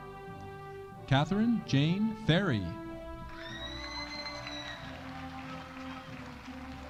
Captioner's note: audience cheering